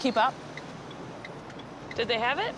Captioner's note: blinkers ticking